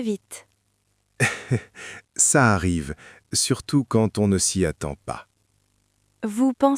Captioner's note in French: rire